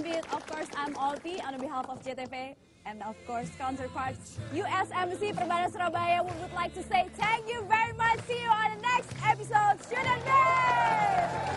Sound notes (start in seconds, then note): 5.1 non-english speech